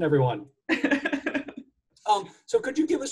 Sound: laughs

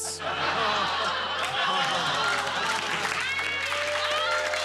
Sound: laughter

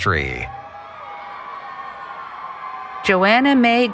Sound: cheering

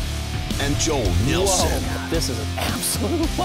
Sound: voiceover

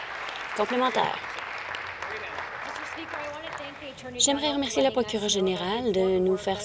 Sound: applause

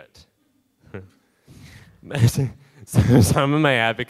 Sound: laughs

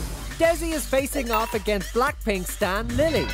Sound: bell dings

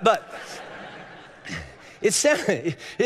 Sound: congregation laughing

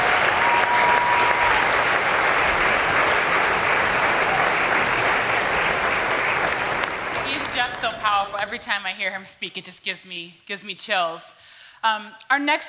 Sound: applause

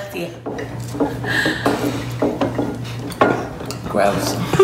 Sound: chewing; tableware clinking

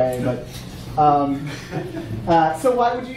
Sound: audience laughing

